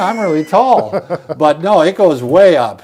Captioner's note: laughs